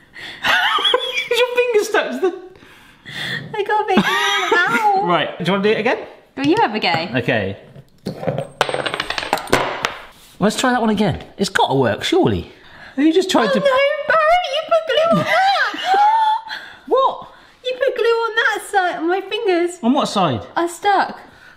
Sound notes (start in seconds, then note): 0.3 laughs; 3.8 laughs; 8.0 tools clatter